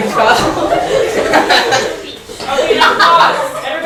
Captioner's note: laughter